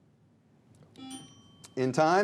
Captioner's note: buzzer